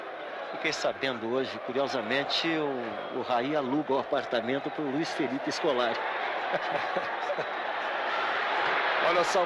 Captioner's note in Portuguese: risos